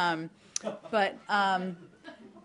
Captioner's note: laughter